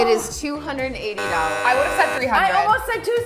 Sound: wrong answer buzzer

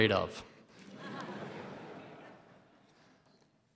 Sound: laughter

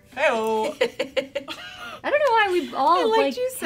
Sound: laughing

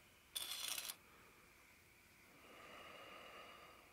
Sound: ax scratches

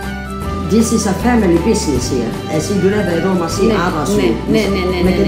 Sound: me speaks Greek; in Greek

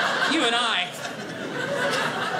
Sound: audience laughing

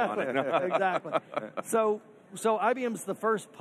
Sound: all laughing

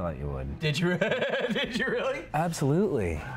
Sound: laughs

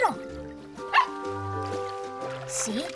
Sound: barking

